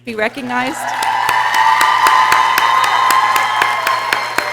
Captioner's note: people cheering